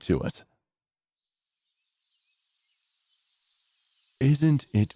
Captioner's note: birds chirping fades in